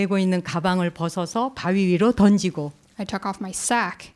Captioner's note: speaking in Korean